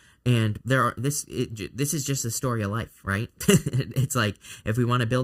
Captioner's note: chuckling